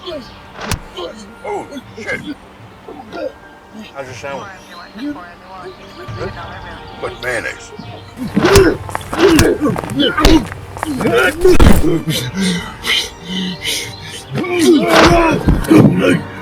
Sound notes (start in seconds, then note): 5.0 police radio chatters; 7.7 slow music; 11.7 Larry sputters; 15.3 slow music